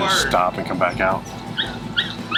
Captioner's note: truck rumbling